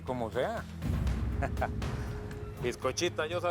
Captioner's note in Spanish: Ríe